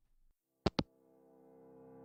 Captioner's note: hangup